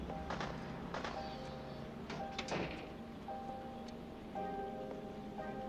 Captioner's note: gunfire